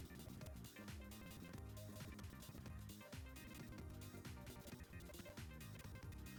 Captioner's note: you can hear the shitty audio playback in the background